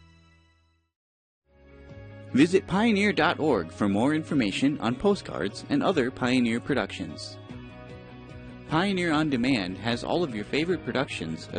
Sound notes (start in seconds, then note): 2.3 voiceover